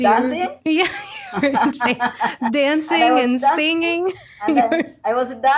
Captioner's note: both Laughing